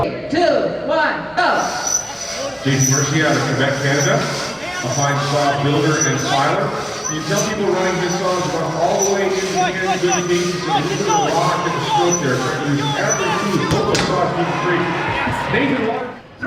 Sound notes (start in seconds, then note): 2.9 muffled announcer calls event